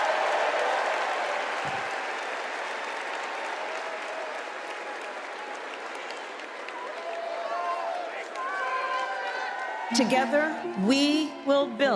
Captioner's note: cheers and applause